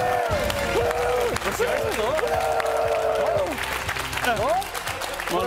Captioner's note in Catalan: ovació